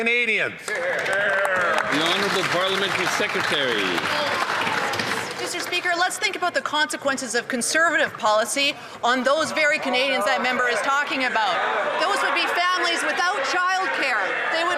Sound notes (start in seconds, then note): 3.6 some Applause